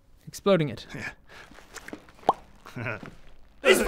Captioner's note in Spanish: risa torcida